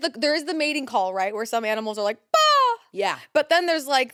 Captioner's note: imitates squawking